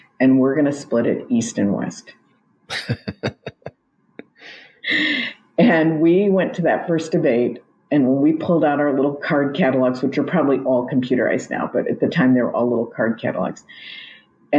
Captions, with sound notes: "And we're gonna split it east and west." (both laugh) And we went to that first debate, and we pulled out our little card catalogs, which are probably all computerized now, but at the time, they were all little card catalogs.